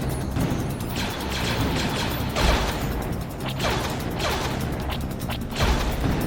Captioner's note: blaster fires; slow music; blasters firing